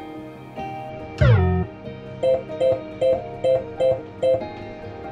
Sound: machine beeping

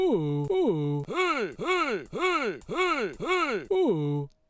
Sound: pc selby memory sound

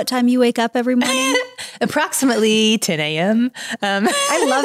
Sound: chuckles; laughing

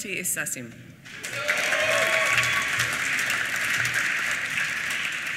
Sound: applause

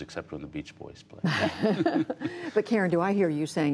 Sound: laughter

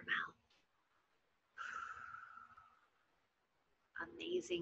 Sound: exhaling

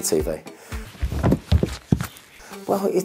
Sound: thuds

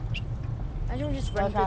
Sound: blowing whistle

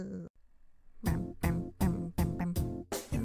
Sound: humming

